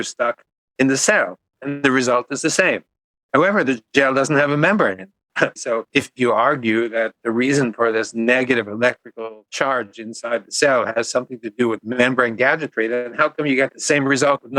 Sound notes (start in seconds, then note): 5.6 laughs